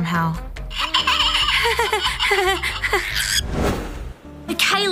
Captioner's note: chuckles; recorded laughter; chirps